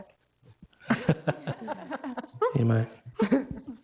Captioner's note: all laughing